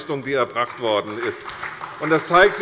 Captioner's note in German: Beifall bei der CDU und dem BÜNDNIS 90/DIE GRÜNEN